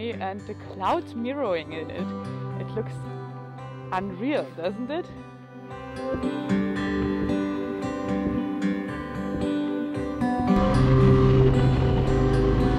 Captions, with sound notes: and the clouds mirroring in it. It looks unreal, doesn't it? (tranquil music) (bike roaring)